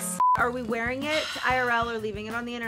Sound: beep

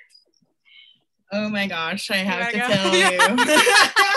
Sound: laughter

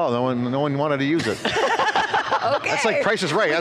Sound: everyone laughing

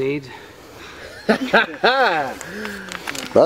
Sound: laughing

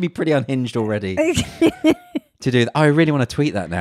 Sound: laughs loudly

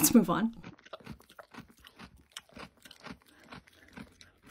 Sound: goat eating

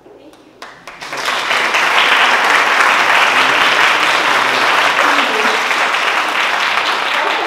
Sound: applause

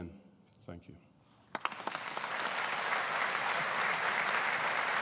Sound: audience applauding

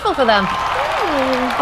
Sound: applause and cheering

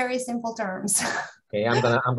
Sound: laughs

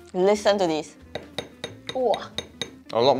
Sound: knock knock knock knock

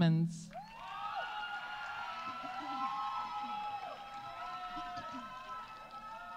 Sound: audience applauding; audience cheering

